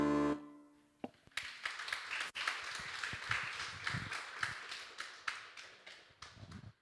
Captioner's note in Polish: Aplauz